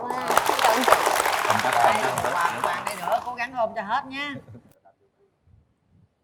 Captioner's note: applause